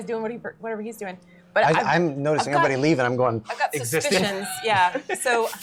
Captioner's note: sniffs